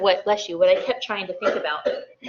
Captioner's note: sneezes